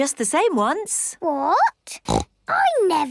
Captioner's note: snorts